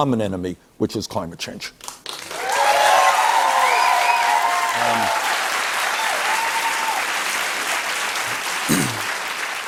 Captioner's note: cheers and applause